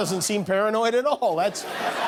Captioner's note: laughter